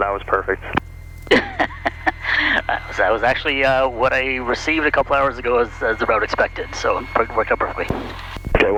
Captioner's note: laughing